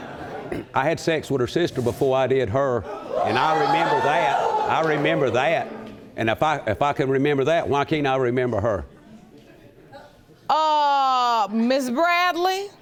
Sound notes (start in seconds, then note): 2.9 audience exclaiming